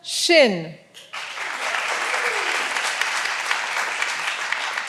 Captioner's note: all applauding